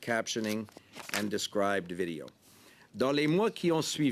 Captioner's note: speaking French